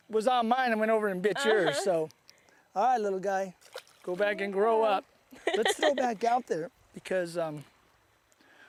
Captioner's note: laughter